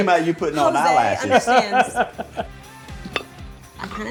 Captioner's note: laughs